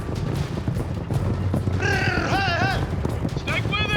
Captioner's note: hoofbeats; everyone yelling